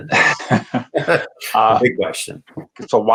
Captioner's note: laughs